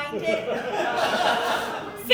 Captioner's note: audience Laughing